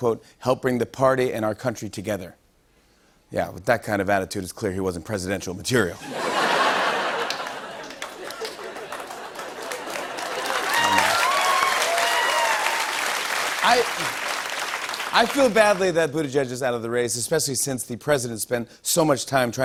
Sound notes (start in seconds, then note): 9.5 cheers and applause